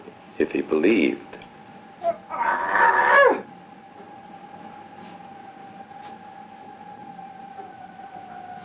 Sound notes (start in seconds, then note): 2.1 Paul growling